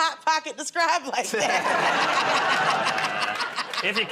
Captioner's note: laughter